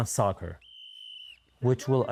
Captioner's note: whistle blows